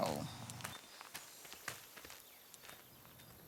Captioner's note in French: bruits de pas